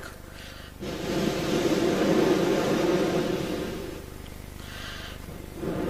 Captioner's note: shri mataji blows into the microphone; shri mataji blows into the microphone